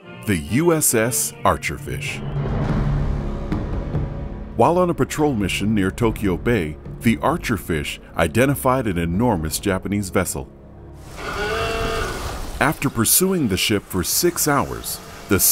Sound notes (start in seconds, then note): 2.6 foreboding music; 11.0 water rustling